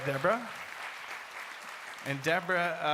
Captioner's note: audience applauds